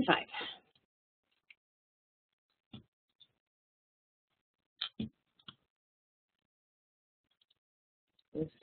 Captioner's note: silence